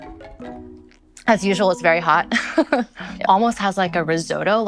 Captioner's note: laughs